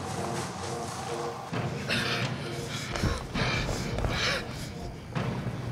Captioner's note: panting